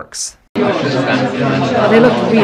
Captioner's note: people chatter